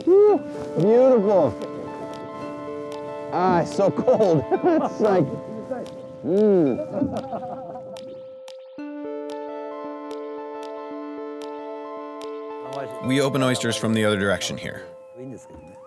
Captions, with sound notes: Woo, beautiful. Ah, so cold, it's like. (man chuckles) Hmm. (people laughing) (somber music) We open oysters from the other direction here.